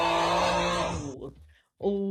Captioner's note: crowd groans